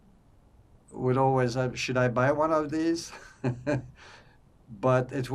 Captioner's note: laughing